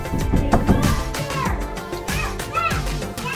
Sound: knocks

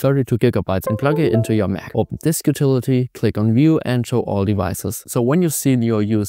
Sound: computer dings

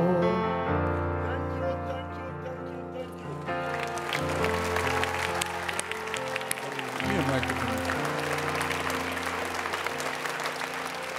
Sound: audience Cheers

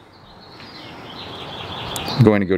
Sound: birds chirping

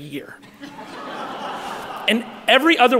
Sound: audience laughing

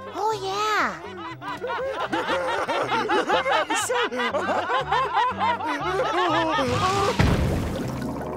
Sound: laughing

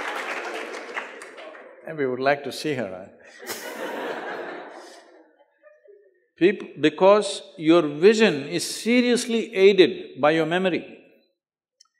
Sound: laughter

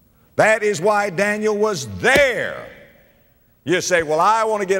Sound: pound

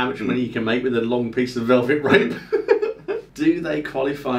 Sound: laughing

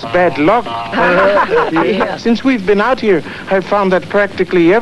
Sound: laughing

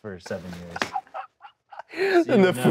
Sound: laughs

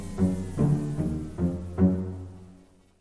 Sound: machine goes quiet

